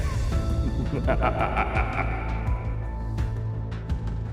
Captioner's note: narrator laughing